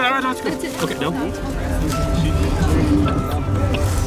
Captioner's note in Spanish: Charla de fondo